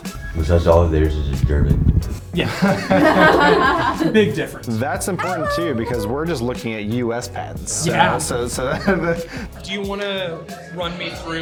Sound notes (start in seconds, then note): 2.4 group laughing; 7.7 laughs